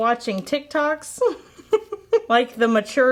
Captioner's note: giggling